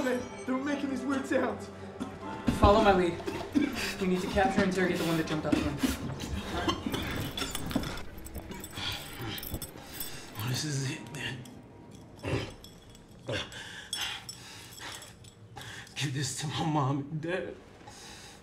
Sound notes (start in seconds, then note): 6.6 coughing blood; 12.3 coughs up more blood